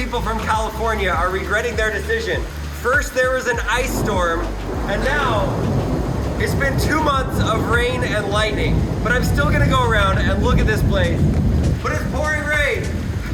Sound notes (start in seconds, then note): 4.3 thunder